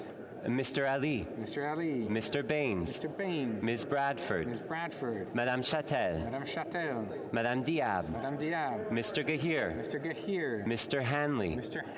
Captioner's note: calling of recorded vote